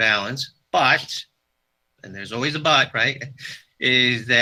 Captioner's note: chuckles